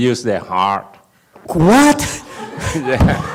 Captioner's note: audience laughs